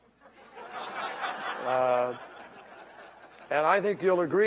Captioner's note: laughter